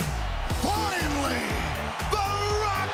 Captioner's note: crowd cheering